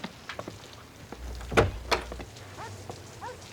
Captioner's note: door opens